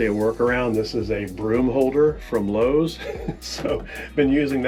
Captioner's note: chuckles